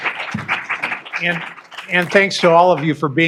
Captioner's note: applause